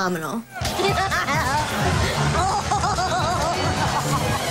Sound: Deena laughing

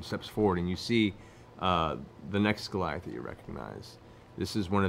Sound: none

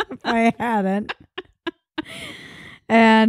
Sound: laughing

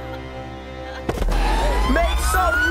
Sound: body thuds

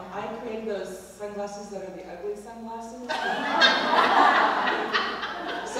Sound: laugh

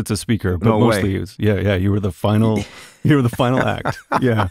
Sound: laughter

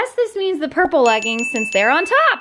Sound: bell dings

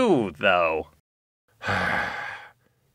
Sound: sigh

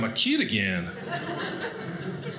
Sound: audience laughing

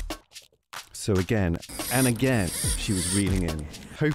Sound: zzzz

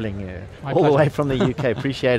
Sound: chuckles

